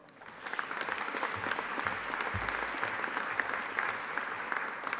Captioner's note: audience applauding